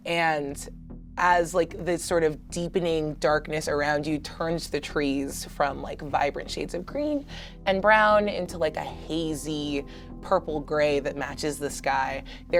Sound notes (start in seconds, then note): none